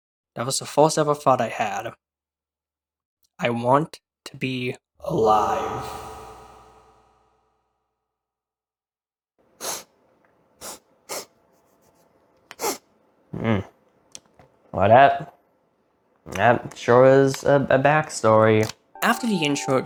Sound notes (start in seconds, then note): 9.6 clears his nose